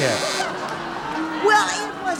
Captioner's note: audience booing